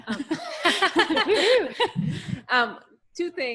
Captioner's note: laughter